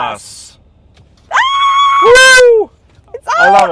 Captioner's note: both cheering